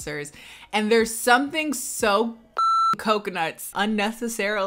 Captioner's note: beep